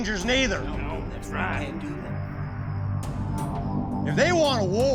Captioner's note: men agreeing